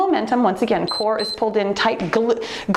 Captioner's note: timer beeps